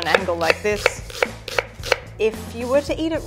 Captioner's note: knife tapping against wooden board